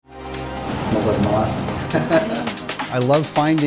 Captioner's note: laugh